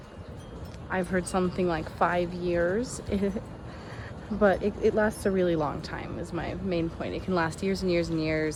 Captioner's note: giggles